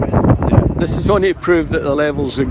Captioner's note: lots of wind noise, sorry